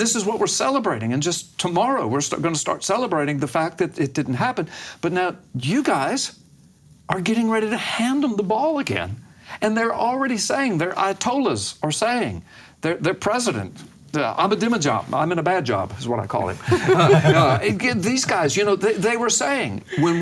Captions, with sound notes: And this is what we're celebrating, and just tomorrow we're gonna start celebrating the fact that it didn't happen. But now you guys are getting ready to hand them the ball again, and they're already saying, their ayatollahs are saying, their president Ahmadinejad, I'm in a bad job is what I call him. (laughing) And these guys, they were saying